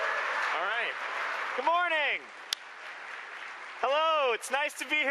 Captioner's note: applause